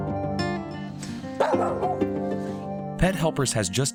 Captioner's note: dog barking